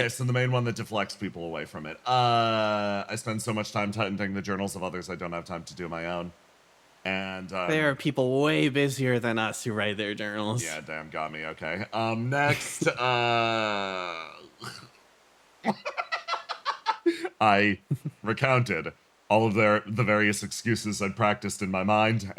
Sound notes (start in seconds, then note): 15.6 laugh